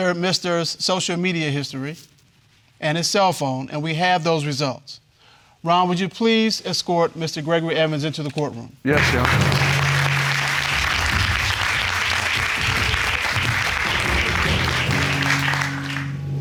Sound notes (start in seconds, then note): 10.8 audience applauding; 12.5 dramatic music